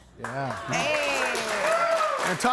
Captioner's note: audience applauding